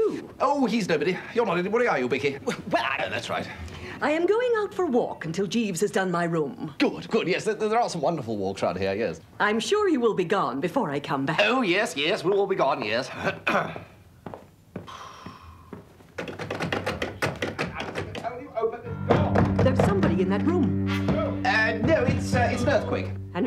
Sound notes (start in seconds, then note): 16.3 rattling